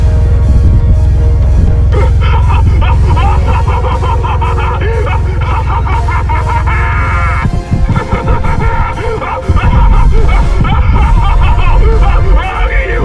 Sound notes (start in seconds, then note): 2.7 laughs Democratically; 8.4 guffaws Prosperously